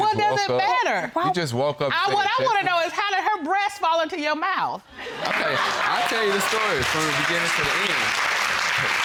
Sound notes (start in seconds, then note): 5.2 audience applauding